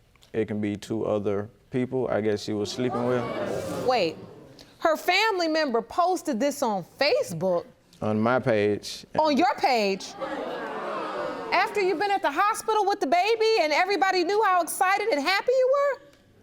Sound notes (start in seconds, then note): 10.1 audience gasping